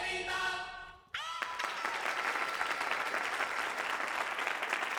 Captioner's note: Aplausos